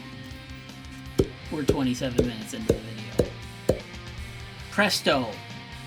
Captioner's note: six pop sound effects